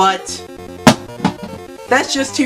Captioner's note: cartridge falls onto floor